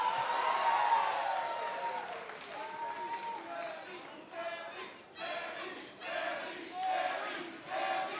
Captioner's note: crowd chatter